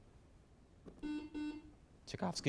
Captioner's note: buzzer beeps